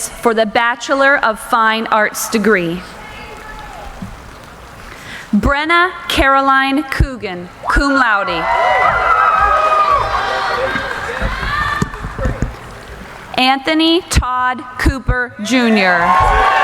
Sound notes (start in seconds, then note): 7.7 cheering